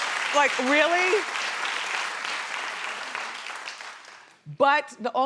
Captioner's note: crowd claps